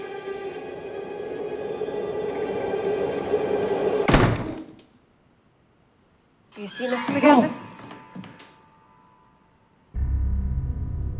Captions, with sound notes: (door thuds) Do you see, Mr. McGavin? - Whoa.